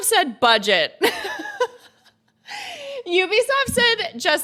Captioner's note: laughs